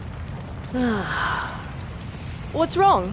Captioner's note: sighs